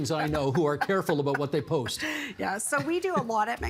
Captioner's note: laughter